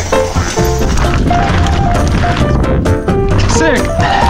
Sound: bike rolling

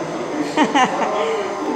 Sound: laughs

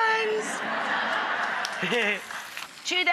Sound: audience laughing

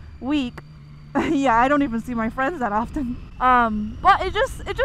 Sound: chuckles

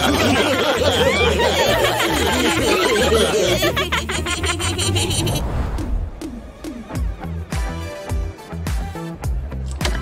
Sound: making happy sounds

